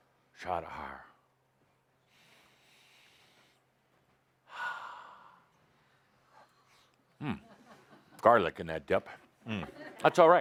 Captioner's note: Adamus takes a breath and breathes out